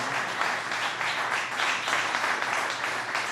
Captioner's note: applause